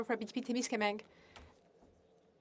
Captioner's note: speaking in French